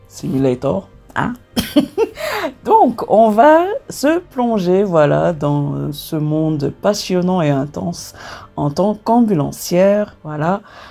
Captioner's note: laughs